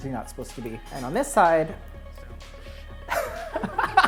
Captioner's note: laughs